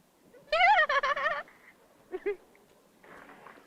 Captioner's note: laugh